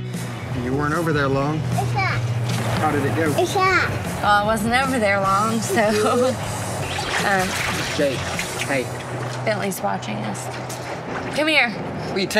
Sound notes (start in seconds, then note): 4.6 laughs